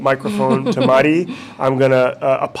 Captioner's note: chuckles